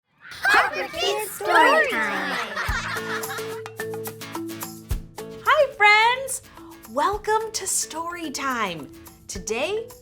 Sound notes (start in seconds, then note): 2.5 laugh